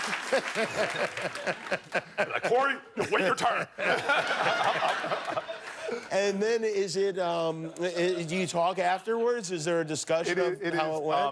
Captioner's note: laughter